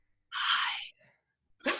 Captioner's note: whispers